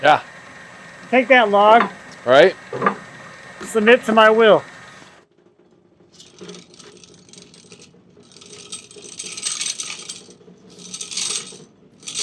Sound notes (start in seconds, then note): 6.8 machine rattling